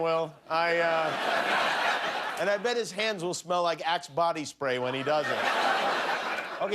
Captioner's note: laughter